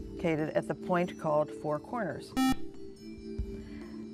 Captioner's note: buzzer